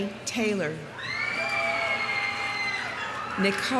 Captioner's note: audience cheering; audience applauding